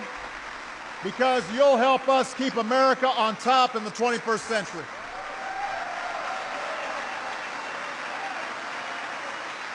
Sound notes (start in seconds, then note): 6.9 applause